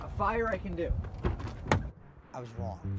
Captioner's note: trunk door opens